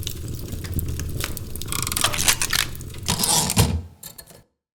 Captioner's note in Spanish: Ruidos mecánicos y retorno de carro de una máquina de escribir